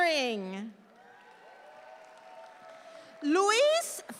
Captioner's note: audience applauds